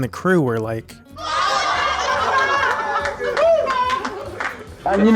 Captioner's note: sounds of shock, laughter, and cheering